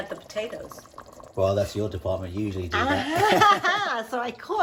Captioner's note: laughing